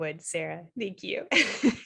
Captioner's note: laughter